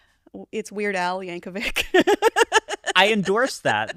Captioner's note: laughs